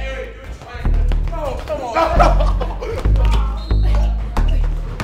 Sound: laughing

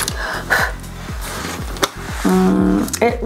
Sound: palm rubbing; blows

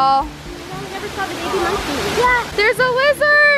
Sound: woman's Voice

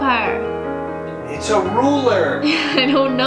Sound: male Voice; laughs

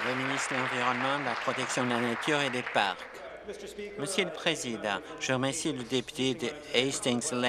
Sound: applause

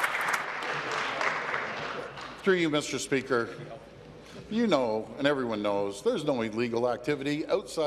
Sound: applause

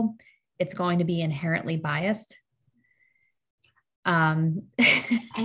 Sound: laughs

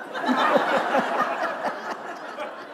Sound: laughter

